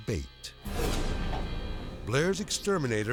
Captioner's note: dramatic whoosh